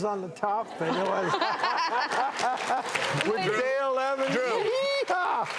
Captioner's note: audience cheering